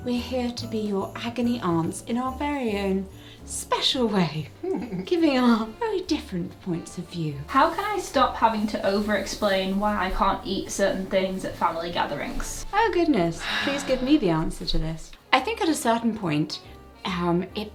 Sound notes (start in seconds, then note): 4.6 laughing